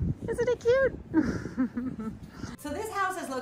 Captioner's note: laughing